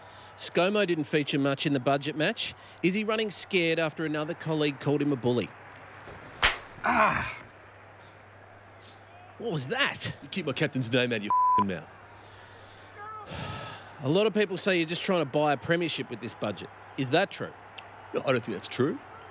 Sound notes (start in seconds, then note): 6.4 slap; 13.2 sighs